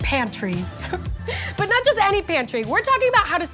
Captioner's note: laughs